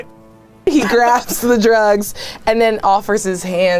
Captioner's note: laughing